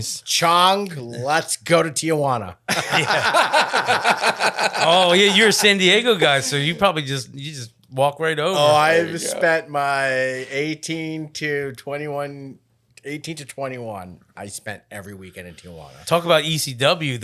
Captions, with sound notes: - Chang, let's go to Tijuana. (laughing) - Oh yeah, you're a San Diego guy, so you probably just walk right over. - Oh, I've spent my 18 to 21, 18 to 21 I spent every weekend in Tijuana. - Talk about ECW,